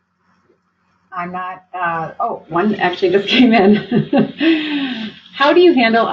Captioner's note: laughs